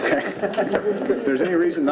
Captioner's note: men laughing